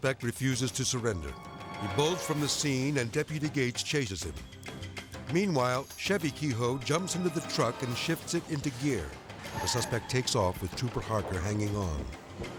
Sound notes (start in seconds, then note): 4.4 suspenseful music; 7.9 tires skidding